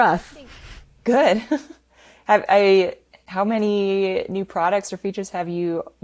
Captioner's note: chuckles